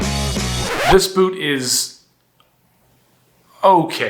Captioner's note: screeching record